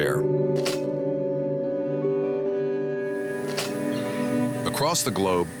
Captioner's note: slides clicking